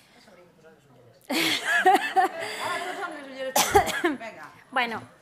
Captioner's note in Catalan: riures